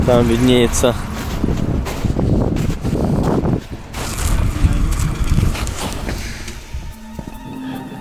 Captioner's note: wind blowing